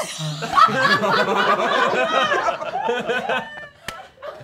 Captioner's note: all laughing